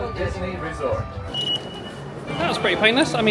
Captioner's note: sensor beeping